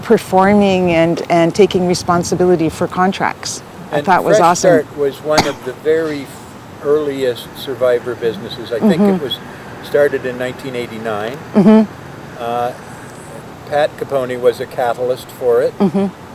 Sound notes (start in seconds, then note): 5.3 coughs